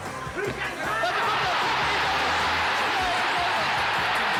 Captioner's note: audience cheering